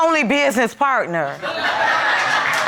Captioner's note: audience laughs